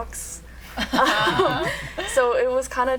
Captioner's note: laughter